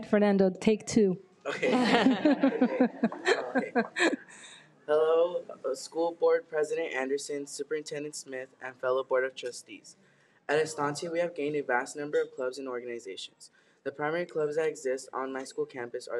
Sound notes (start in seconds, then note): 1.4 people laughing